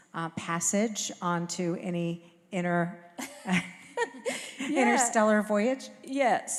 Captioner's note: chuckle